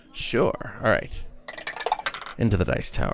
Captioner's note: good dice noises